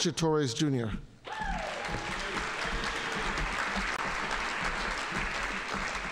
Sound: audience applauding

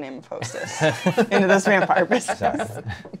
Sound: laughter

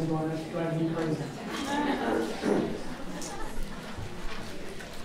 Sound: audience laughing

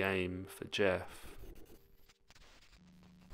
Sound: soft static

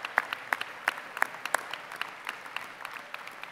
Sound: applause

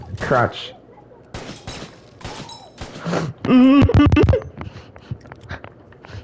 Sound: anime School boy moaning when the protag gets some good cosh

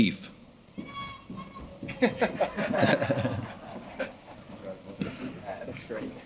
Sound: laughing

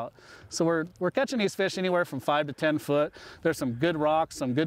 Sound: none

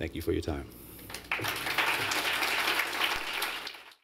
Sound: applause

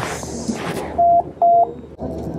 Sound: speaks in japanese; machine beeps

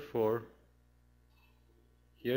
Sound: pause

